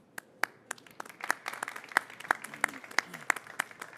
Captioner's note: people clapping